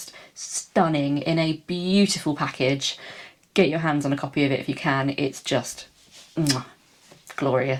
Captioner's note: mwah